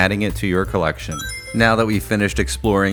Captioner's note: Sonic Ring Chime